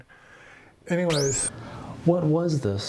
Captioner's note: static tuning